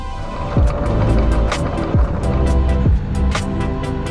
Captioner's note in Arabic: زئير المحرك; موسيقى مبهجة